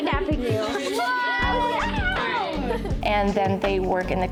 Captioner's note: kids talking excitedly